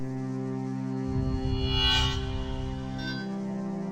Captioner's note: metallic shimmering hum